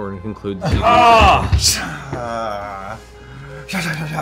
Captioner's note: groaning